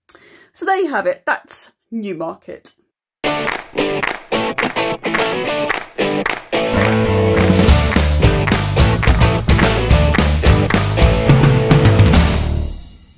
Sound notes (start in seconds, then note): 3.3 claps